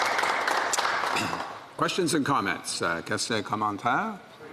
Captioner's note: applause